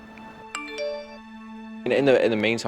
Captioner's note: cellphone dings